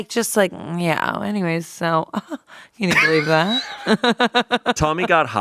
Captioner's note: laughs